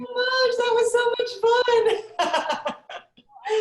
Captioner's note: laughs